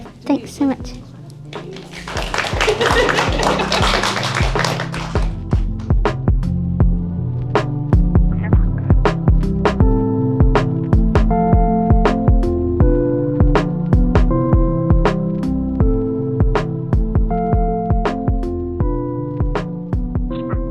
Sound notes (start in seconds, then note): 0.8 applauds